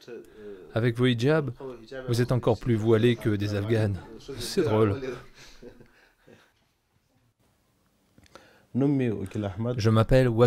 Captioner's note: laughter